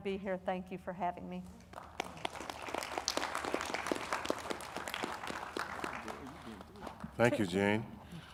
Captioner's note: audience applauding